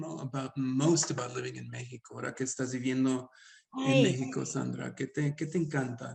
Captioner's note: speaks Spanish; speaks Spanish